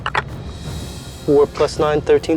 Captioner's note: dice clinks